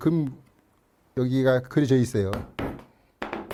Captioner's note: hammering sound